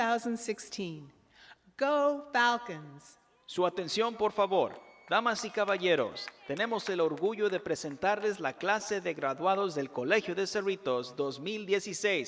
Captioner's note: announcement in spanish